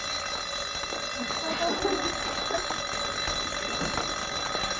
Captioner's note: laughing